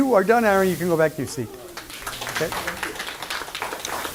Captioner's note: clapping